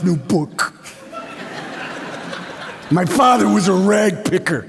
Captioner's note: laughter